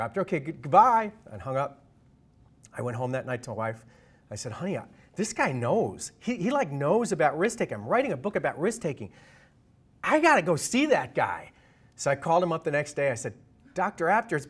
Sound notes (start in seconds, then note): none